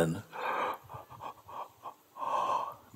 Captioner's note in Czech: zívání